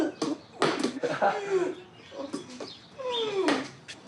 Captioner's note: chuckles